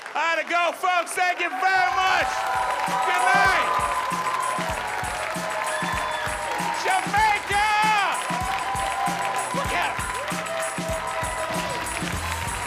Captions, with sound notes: I gotta go folks, thank you very much, goodnight. (audience applauding) Jamaica. Look at her. (upbeat music)